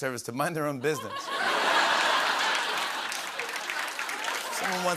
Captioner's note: laughter